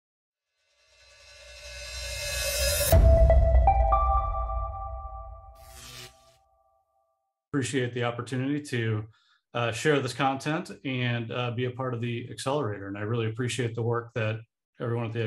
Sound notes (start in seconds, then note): 0.2 title card chiming; 5.5 electricity buzzing